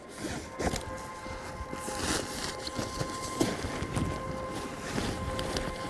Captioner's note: fabric rustling; gentle quiet music